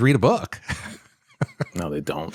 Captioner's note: laughs